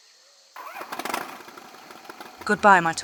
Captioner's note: brrr Brrr